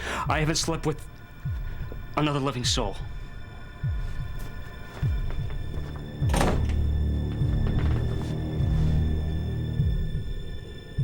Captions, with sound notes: I haven't slept with another living soul. (door closes) (tense music)